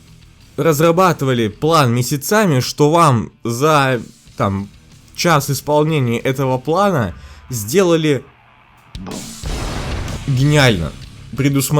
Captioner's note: boom